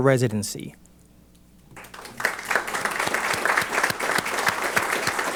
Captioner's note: applause